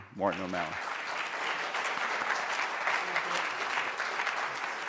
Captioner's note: applause